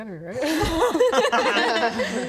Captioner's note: more hopeful laughter